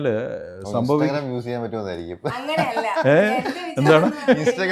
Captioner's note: laughter